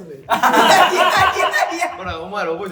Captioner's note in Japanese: 笑い声